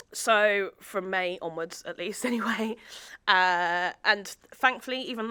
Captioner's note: chuckles